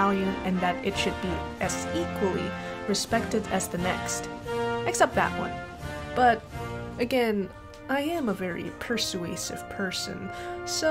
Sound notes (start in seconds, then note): none